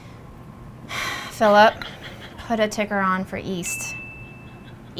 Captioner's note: sighs